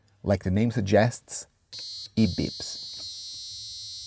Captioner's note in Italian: beeper